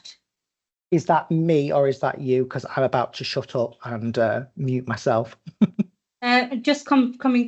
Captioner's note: laughing